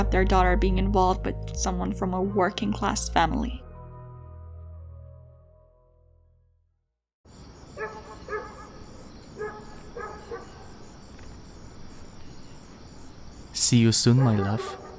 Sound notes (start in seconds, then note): 7.2 crickets chirping; 7.5 dogs barking in the distance